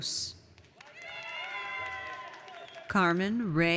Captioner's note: audience cheers